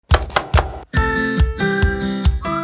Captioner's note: knife chopping; bright music